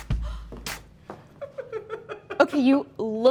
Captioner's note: rhythmic music; gasps; laughing